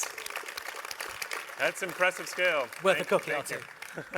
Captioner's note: applause